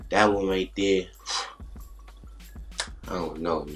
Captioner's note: Micheal exhales